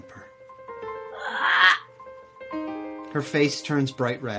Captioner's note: voice croaks